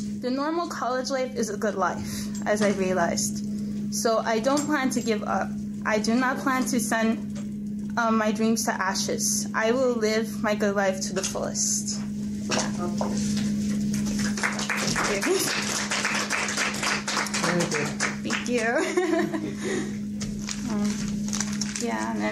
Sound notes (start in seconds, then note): 14.0 crowd applauds; 18.6 laughs